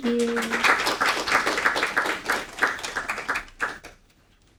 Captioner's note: audience applauding